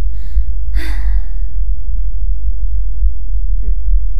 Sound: sigh

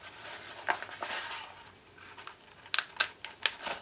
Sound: paper rustling

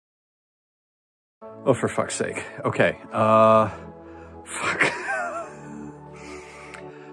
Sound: laughs

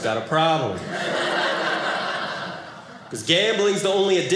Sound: audience laughing

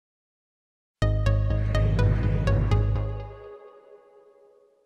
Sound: digital tones

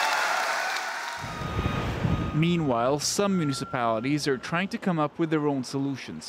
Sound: cheers and Applause

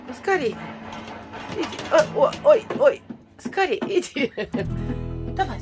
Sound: laughs

